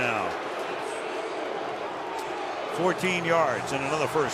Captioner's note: crowd clamoring